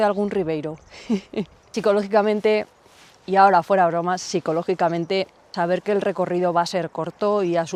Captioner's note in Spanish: risas